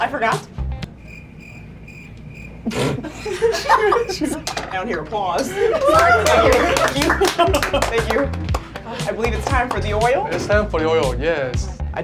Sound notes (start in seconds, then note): 0.9 crickets chirping; 2.6 laughing; 5.4 clapping